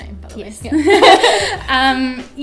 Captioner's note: laughter